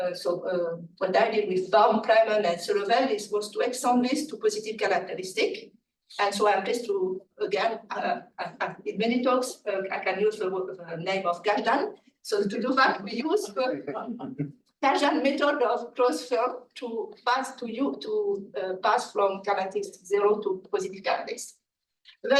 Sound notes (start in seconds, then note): 13.9 laughing